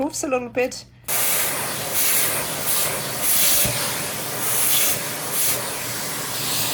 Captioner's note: continuous sound of vacuum cleaner